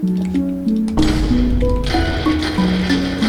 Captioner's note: end crystal explosion and totem pop sounds